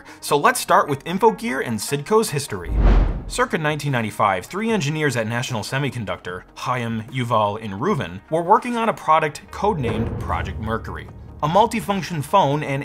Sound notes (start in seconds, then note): 2.6 transition whooshes